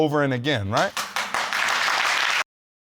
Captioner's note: applause